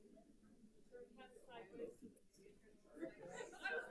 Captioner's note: group chattering